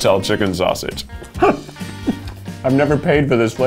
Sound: chuckling

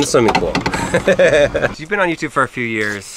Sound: laughing

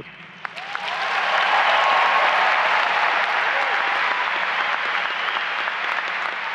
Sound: applause and cheering

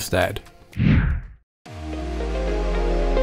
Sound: air whooshing; upbeat instrumental music

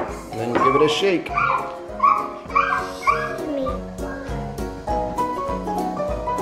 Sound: squealing

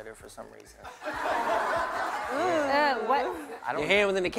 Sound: laughter

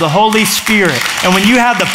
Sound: applause

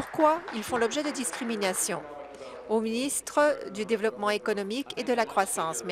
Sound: applause

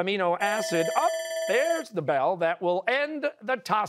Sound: bell ringing

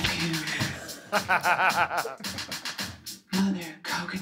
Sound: laughter

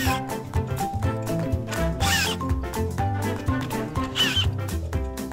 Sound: screwdriver drilling

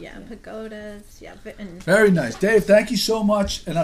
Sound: voiceover

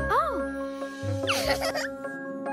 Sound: she Giggles

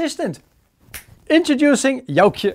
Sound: snaps fingers

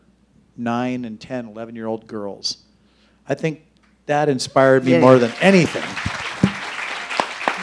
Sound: applause

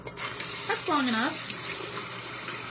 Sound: faucet running

